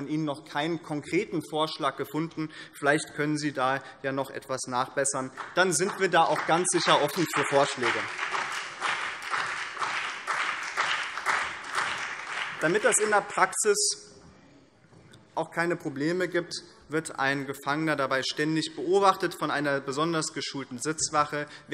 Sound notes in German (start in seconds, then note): 8.3 Beifall BÜNDNIS 90/DIE GRÜNEN und CDU